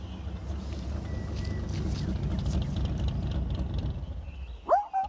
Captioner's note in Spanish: Sonido del carro